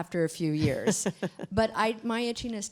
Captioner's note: laughter